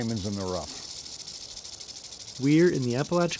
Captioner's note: rattling